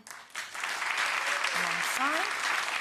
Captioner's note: light applause